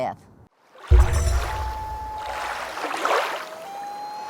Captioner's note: water rushing, loon calling